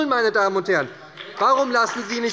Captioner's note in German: Beifall bei der SPD - Zurufe von der CDU